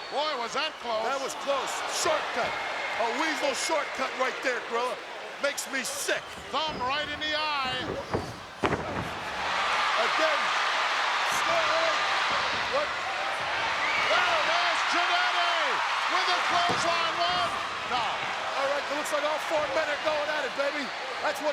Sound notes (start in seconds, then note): 9.4 audience cheering